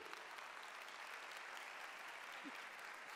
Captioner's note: applause